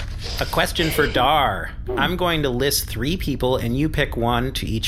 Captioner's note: flipping through paper